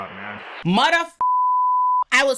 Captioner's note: beep